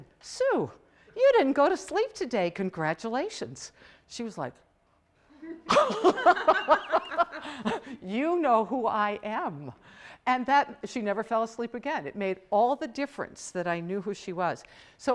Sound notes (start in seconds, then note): 5.3 laughing